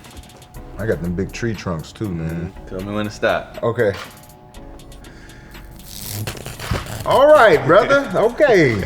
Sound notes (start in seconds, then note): 5.5 device buzzing